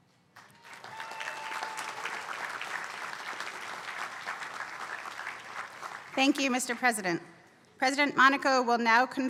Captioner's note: applause